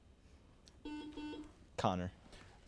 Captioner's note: buzzer buzzes